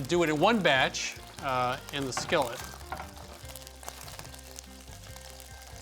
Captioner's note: sizzling